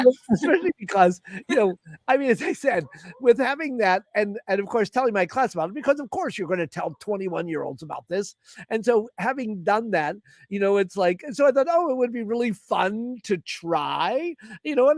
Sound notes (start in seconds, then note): 1.2 laughter